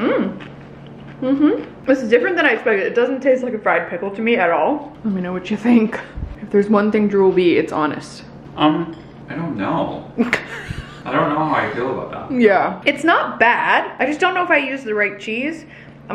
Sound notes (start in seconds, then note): 10.2 laughs